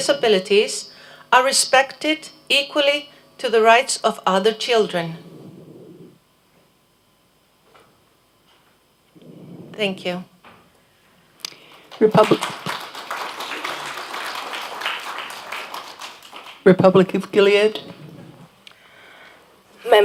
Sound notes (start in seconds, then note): 11.6 applause